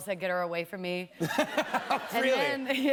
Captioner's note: laughter